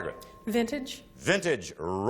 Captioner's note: ping